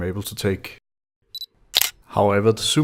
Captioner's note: shutter sound